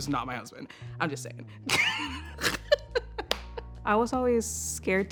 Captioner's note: laughing